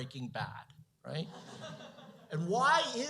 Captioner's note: laughter